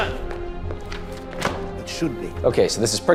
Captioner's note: book tapping